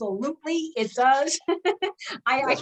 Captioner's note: chuckles